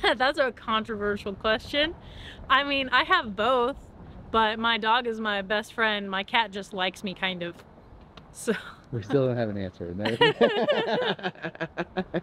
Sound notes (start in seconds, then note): 9.0 laughs